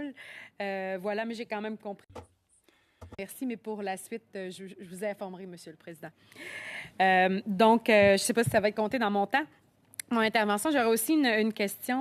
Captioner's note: speaking French